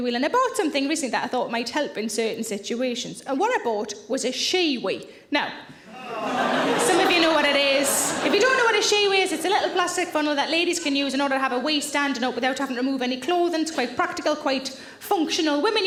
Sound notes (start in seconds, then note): 5.9 audience groaning; 5.9 audience laughing